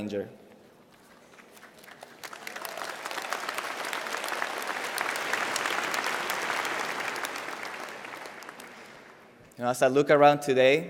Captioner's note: applause